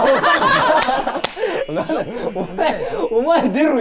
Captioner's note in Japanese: 一同：笑い